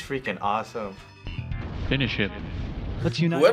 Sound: explosion

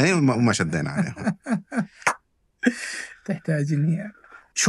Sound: laughter

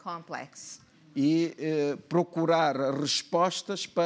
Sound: speaking portuguese

